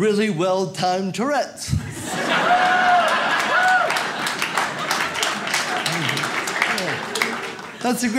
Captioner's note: audience laughs